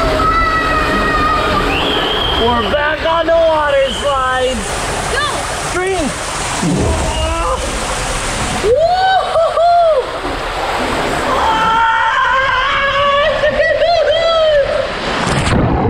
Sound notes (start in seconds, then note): 0.1 screams; 7.7 shouts; 11.5 laughs